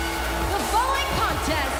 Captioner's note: bell ringing